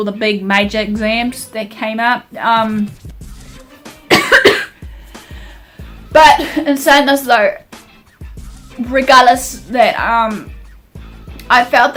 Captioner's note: coughs